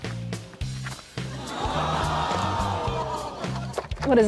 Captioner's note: audience groans